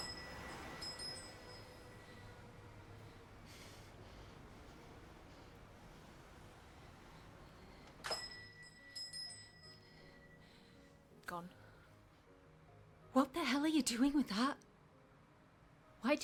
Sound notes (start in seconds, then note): 0.0 door bell jingles; 0.0 traffic humming; 8.0 door bell jingles